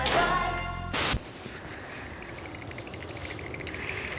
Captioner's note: teeth chattering